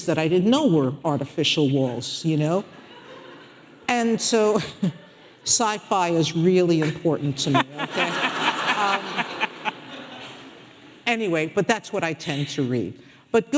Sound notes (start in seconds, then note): 4.6 laughing; 7.5 audience laughing